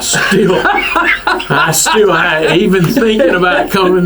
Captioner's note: laughs